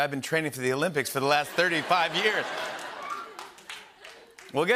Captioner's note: laughter